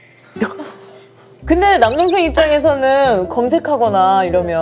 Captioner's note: trying to make it sound more loving